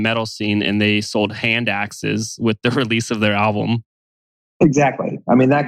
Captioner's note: laughs